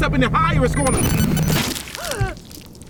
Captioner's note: amp distortion; explosive splatter; gasps